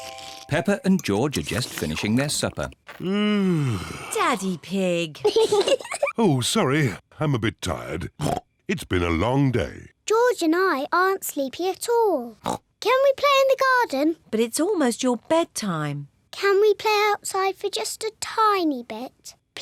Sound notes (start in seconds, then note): 2.9 yawns; 5.2 kids giggle